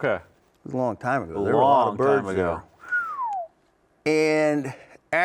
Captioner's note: whistles